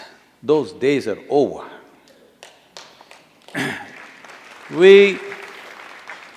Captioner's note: applause